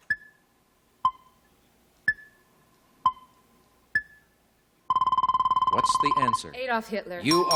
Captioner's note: timer dinging